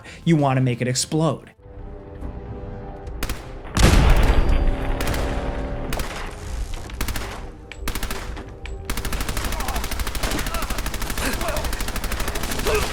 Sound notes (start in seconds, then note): 1.8 intense ambient music; 3.7 gunshot fires; 3.8 loud explosion; 7.0 gunshots firing; 10.2 players grunting